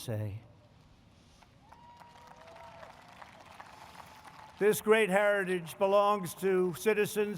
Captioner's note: applause